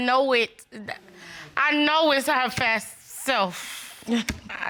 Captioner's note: chuckles